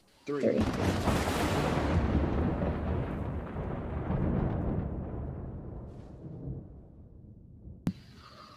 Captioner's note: thunder